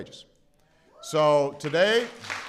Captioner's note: applause